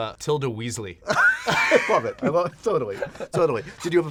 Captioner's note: laughter